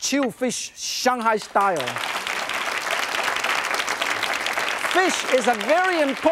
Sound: audience claps

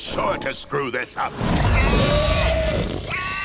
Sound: screeching; squealing

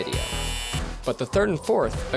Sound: buzzer

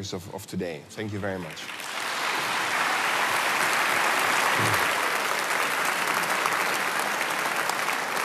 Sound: applause

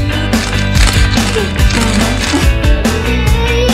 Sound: camera clicking; upbeat music

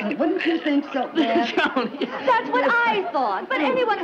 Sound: Brad laughs

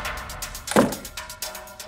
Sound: door closes

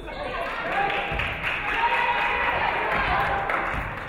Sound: audience clapping

